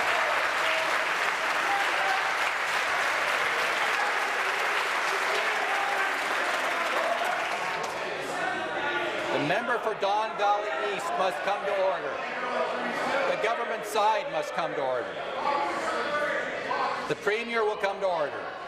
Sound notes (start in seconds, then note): 5.4 applause